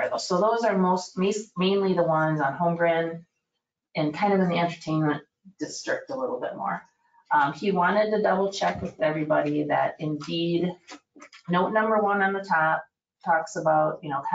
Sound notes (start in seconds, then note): none